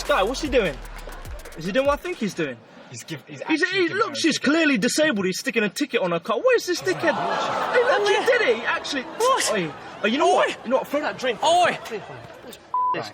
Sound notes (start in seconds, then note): 7.0 audience gasps